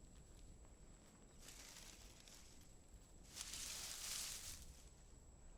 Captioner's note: branches rustling